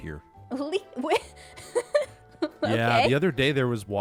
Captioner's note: laughs